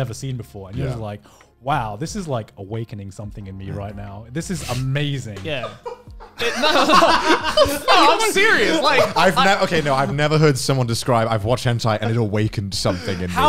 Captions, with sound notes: And you're like, wow, this is like awakening something in me right now. This is amazing. (laughing) - Seriously. - I've never heard someone describe, I've watched hentai and awakened something in him.